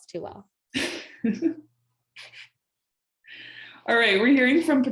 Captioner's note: laughing